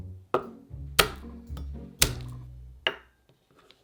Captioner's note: knife smashing